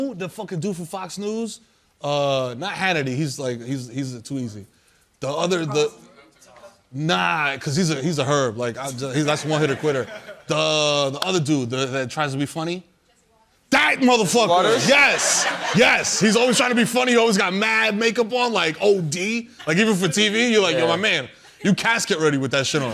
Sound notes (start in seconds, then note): 14.6 laughter